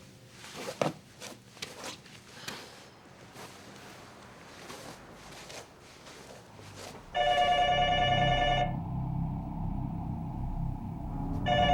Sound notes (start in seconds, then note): 7.1 phone ringing